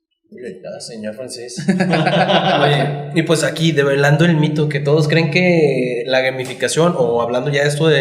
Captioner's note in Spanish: risas